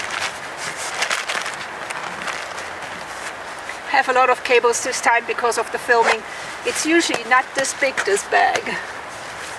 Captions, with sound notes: I have a lot of cables this time because of the filming. It's usually not this big, this bag. [laughs]